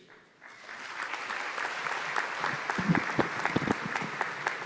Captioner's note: applause